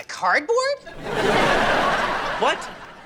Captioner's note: audience laughing